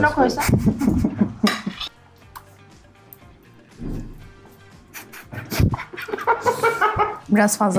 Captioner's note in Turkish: Gülüşmeler